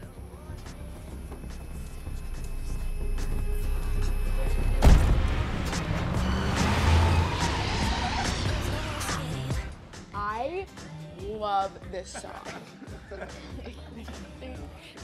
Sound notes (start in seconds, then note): 0.3 suspenseful music playing; 11.6 continues playing over speakers; 12.0 laughter